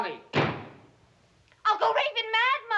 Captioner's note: door slams